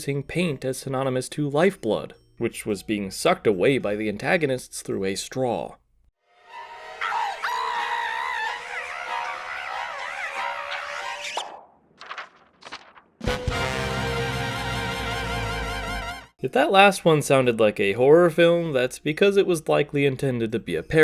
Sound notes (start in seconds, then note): 6.4 Toad screaming, "Psycho" strings